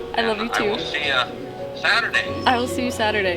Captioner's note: voice On Phone